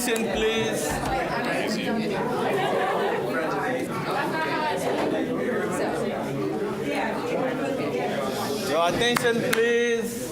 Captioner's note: bustling conversation